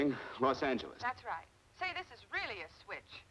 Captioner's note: on phone